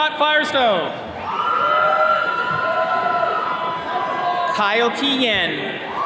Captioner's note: attendees cheering